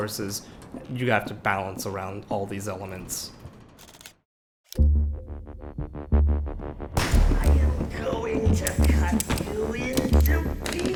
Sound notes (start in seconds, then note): 4.0 button clicks; 4.8 ominous upbeat music